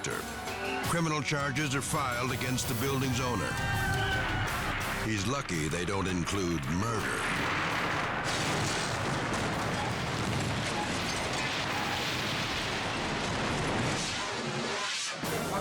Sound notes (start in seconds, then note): 7.5 building cracking; 10.1 building crashing